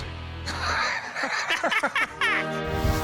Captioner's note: laughter